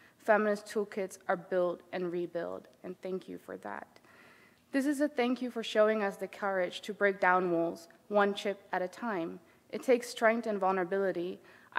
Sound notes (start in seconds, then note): none